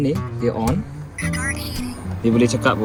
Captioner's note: device notification